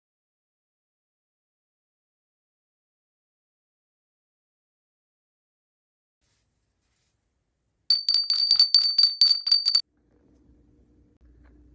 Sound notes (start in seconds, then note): 7.9 bell ringing